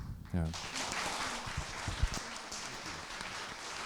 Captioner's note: applause